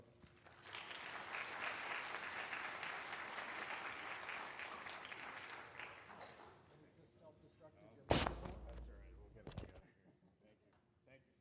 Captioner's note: applause